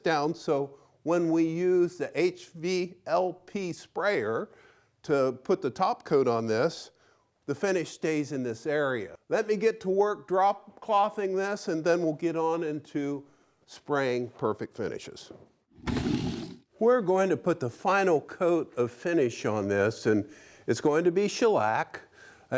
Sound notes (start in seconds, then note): 15.8 wood stacking sound